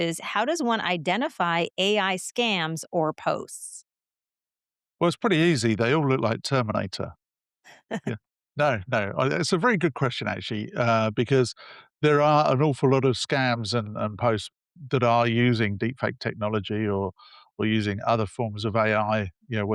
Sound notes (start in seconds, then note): 8.6 laughs